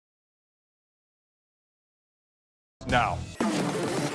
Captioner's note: silence